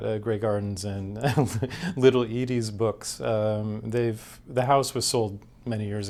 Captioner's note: chuckles